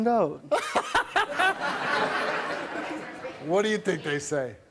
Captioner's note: laughing